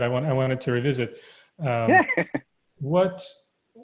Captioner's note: laughing